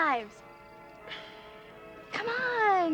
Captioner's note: exhales